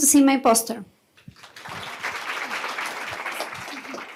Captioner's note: applause